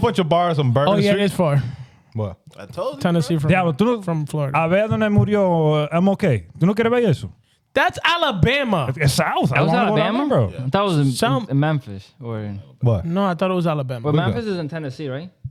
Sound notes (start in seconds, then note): 5.1 speaking Spanish; 7.6 speaking Spanish